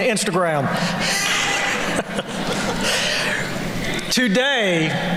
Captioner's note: laughter